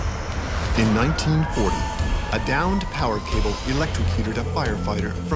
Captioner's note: voiceover